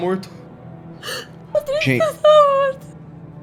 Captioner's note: crying